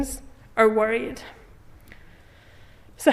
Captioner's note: none